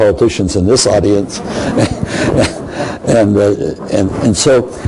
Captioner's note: crowd laughing